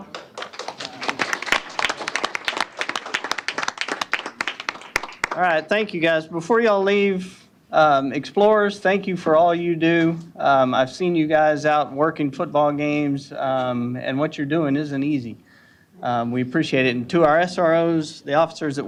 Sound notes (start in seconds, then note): 0.0 applause